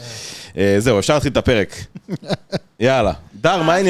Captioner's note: laugh